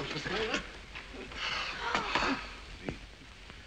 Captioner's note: gasps